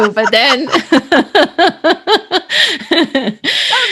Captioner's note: both laughing